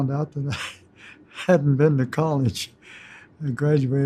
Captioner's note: chuckles